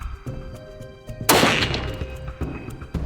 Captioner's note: shot